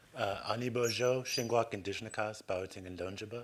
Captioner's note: non-english speech